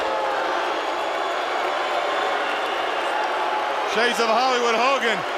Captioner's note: crowd cheering